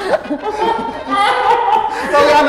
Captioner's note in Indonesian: ketawa nyi pelet backsoundnya